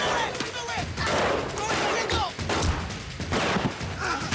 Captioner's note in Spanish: Disparos